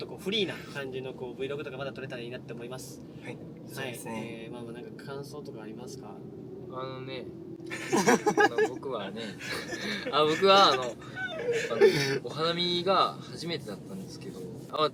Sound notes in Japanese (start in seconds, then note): 7.8 笑笑笑笑